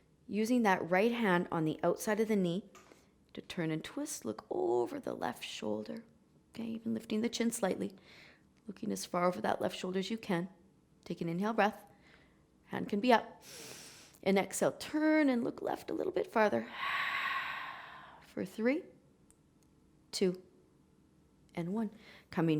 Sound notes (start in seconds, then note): 13.4 inhaling; 16.7 exhaling